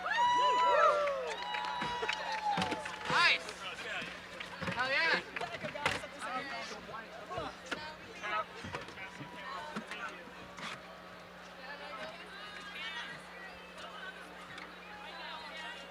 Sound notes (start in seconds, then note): 0.0 audience applauding and cheering; 5.1 indistinct overlapping chatter